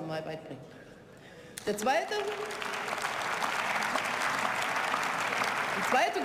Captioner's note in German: Beifall